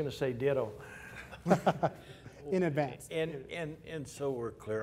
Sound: laughter

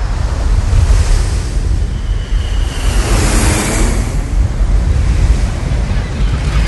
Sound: waves crash; vehicle passes; seagulls scatter and squawk

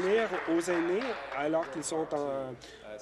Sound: applause

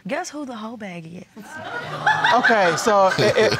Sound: audience laughs

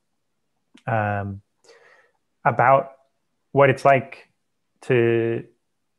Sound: breath

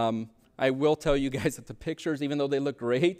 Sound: chuckles

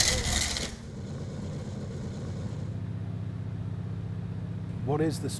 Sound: engine rumbling

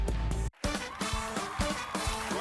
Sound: upbeat music; audience applauding

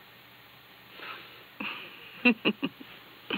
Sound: laughter

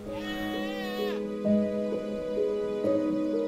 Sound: bleating

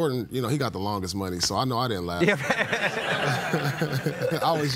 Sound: laughter

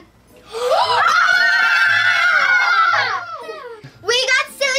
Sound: girls cheering

